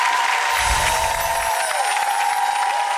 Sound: cheering

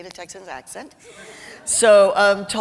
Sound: laughter

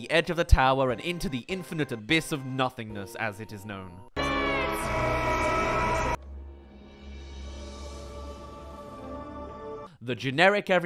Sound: screams

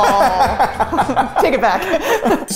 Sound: laughing

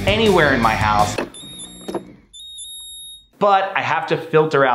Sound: water dispenser beeps

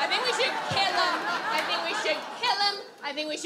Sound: audience laughs

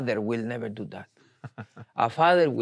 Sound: laughs

